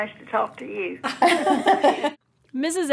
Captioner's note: laughs